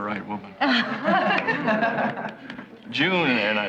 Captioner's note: laughing